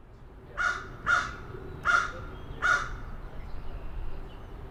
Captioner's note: crow caws